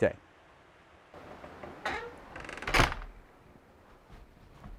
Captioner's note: door bangs; door squeaks; feet pattering